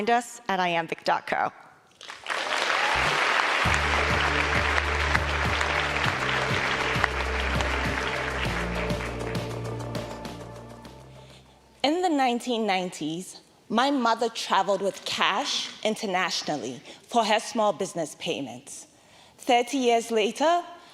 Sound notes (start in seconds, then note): 13.5 applause